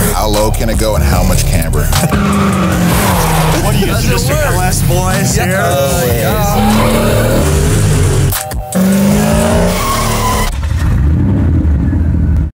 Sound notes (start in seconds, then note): 6.5 engine Roaring; 8.7 tires Screech